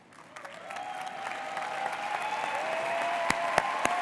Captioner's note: audience applauds